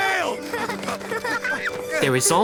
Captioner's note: Yukko grunting; Kun continues laughing